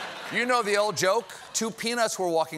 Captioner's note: laughter